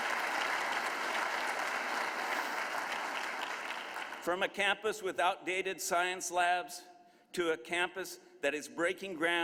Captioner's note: applause